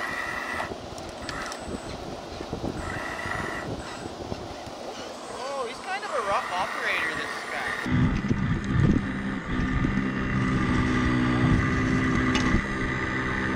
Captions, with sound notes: Oh, he's kind of a rock operator this guy. (machine whirring)